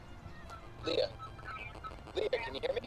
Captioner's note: on phone